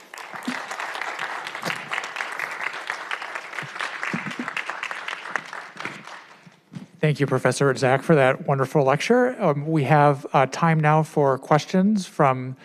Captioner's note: applause